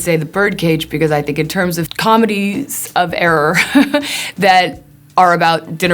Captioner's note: laughs